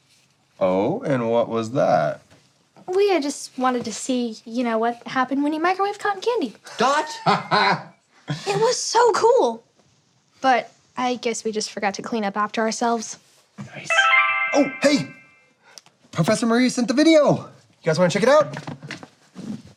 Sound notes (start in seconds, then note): 13.8 tablet chimes